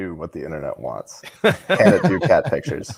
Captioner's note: laughing